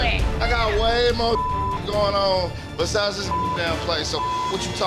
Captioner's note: beep